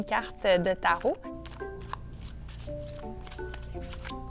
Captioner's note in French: glissement des cartes